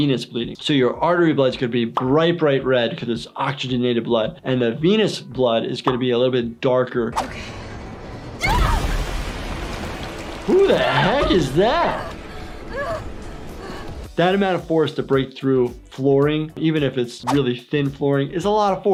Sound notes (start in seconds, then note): 8.4 woman screams; 12.1 woman panting